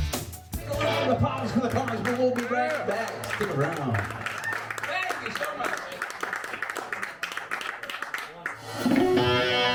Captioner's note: applause